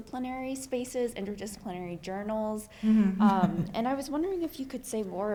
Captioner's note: laughs